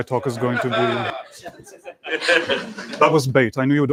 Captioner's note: laughter